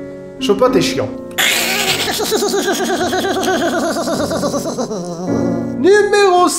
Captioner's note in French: rire de débile